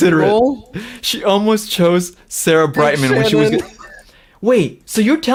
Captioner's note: laughs